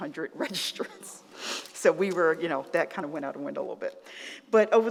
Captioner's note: chuckles